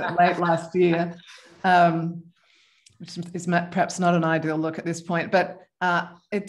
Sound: laughter

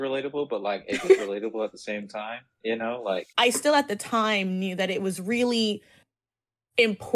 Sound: laughs

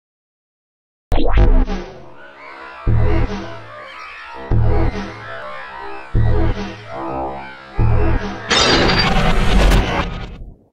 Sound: sound of morphing

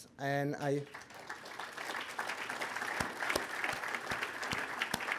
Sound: applause

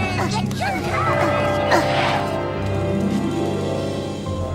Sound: clock strikes

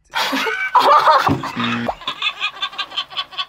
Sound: laughs; buzzer rings

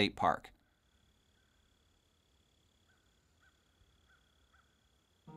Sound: nature Sounds

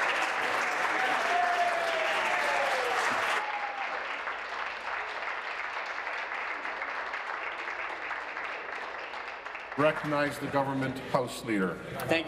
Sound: applause

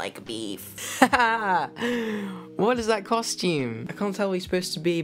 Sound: laughing

